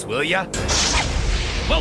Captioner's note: crashing